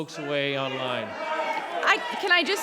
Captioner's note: public interjecting